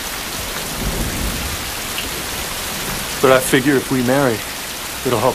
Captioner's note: thunderRumbling